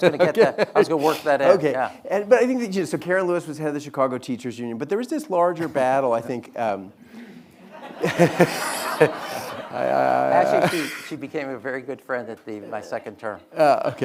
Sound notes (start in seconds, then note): 7.4 audience laughing